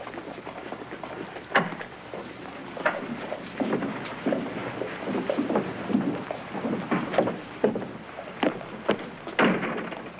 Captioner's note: foot steps; doors shutting